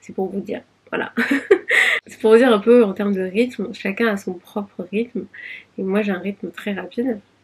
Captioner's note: laughs